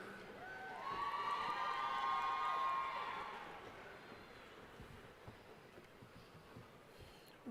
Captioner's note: cheering